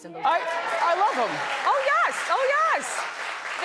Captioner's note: audience cheering